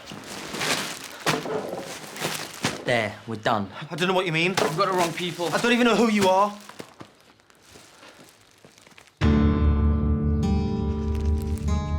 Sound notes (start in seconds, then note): none